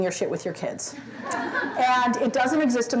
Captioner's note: laughter